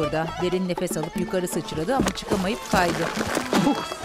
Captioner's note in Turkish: Düşme sesi; Tükürme sesi